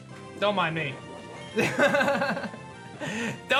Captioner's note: chuckles